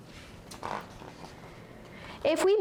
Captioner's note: paper flips